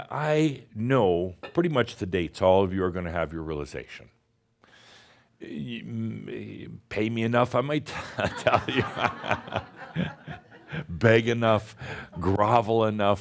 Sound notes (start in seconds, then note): 7.9 laughter